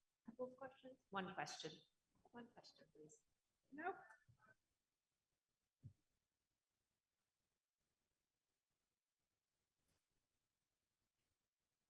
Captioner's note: pause